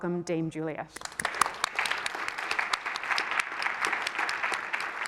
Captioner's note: applause